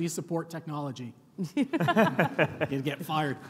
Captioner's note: and panel laughing